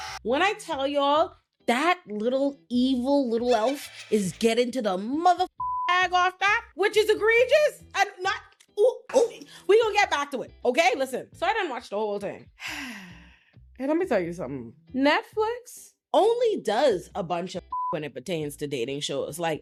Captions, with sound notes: When I tell y'all that little evil little elf is getting to the motherfucker I got back, which is egregious, I'm not, ooh, ooh, we gonna get back to it, okay? Listen, so I done watched the whole thing. (sighs) Let me tell you something. Netflix only does a bunch of when it pertains to dating shows.